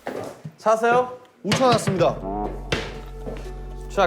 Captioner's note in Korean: 텅텅~